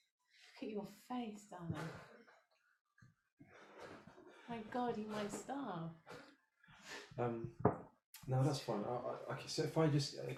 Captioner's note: laughter